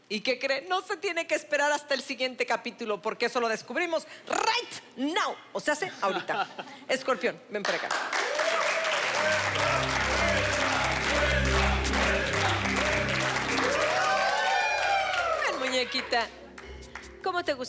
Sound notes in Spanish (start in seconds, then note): 10.7 Aplausos; 16.4 Gritos y exclamaciones